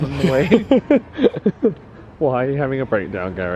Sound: laughing

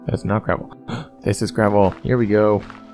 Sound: gasp

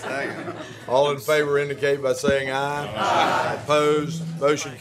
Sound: laughter

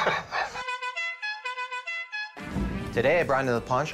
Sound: horn sounds

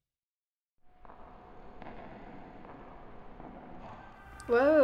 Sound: echoing footsteps

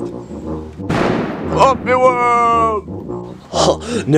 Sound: defeated Noises

